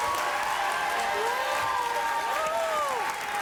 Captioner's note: cheering